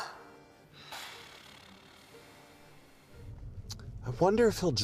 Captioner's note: phone ringtone gasps; both exhale